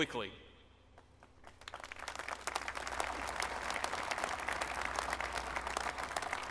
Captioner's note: applause